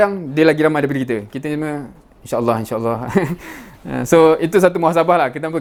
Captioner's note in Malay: ketawa